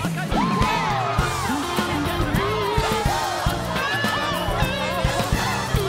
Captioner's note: all chattering happily; lively music